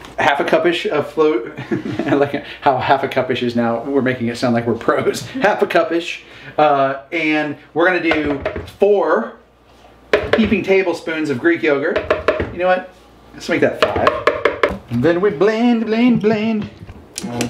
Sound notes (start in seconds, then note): 1.6 laughs; 13.8 tapping